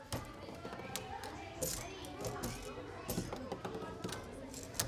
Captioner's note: children chattering